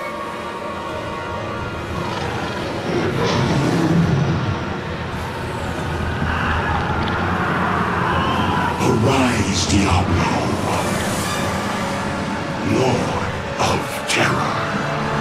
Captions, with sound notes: [DIABLO GROWLING] Arise, Diablo! Lord of Terror!